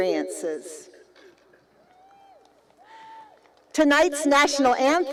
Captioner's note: cheering